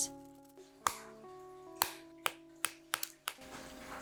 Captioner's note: chocolate snapping